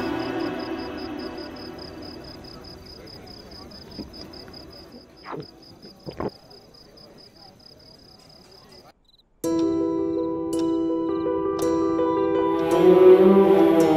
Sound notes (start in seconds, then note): 0.0 crickets clittering; 5.3 sipping